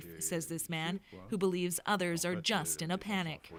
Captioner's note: speaking Foreign Language